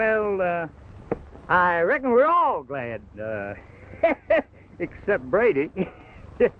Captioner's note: laughs; everyone laughs